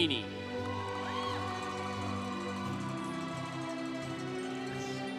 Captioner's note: congregation cheering